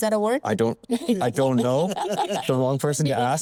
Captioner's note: panelists laughing